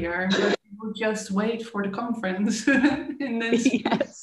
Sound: laughing

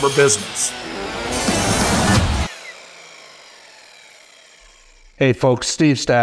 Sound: saw blade whirring

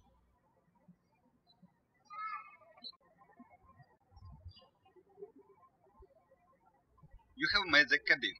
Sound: birds chirping

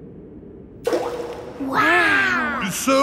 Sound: rock plops

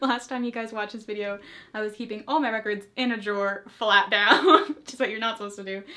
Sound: laughs

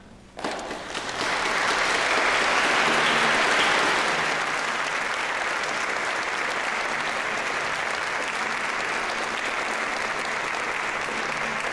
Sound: applause

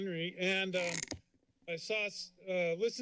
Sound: cracking sound

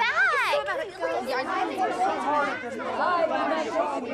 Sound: group arguing

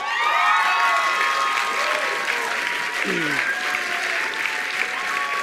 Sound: attendees applauding and cheering

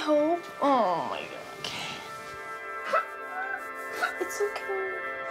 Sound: girl sobs

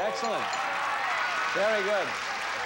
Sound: audience cheering

